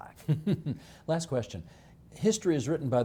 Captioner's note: chuckling